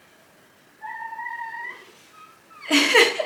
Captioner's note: whimpering